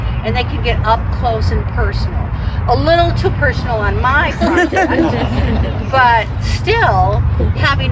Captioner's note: laughter